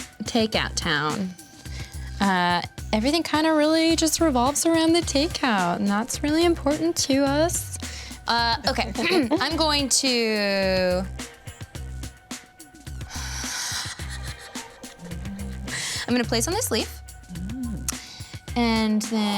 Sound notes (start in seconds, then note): 9.2 clears throat; 11.7 laughs quietly